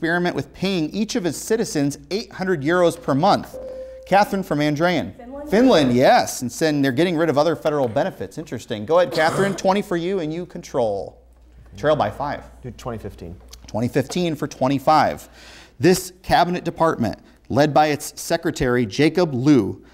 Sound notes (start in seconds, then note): 3.0 beeping